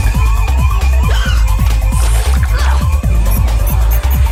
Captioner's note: alarm ringing